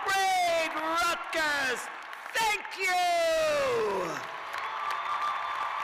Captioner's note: cheers and applause